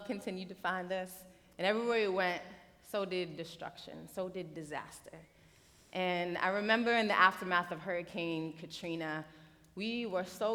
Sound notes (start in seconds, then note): none